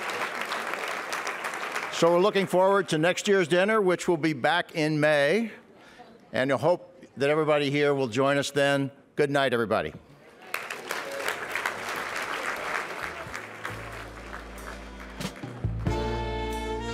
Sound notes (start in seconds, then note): 10.2 applause